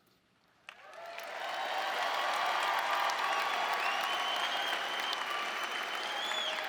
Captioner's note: audience cheering and applauding